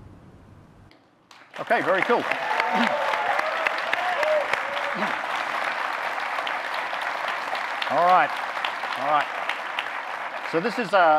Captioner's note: audience clapping, cheering; cheering